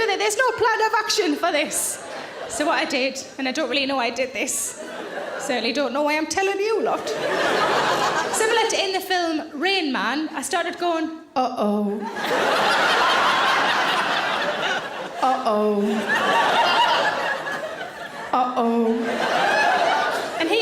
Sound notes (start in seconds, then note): 12.0 audience laughing loudly; 18.9 laughter continues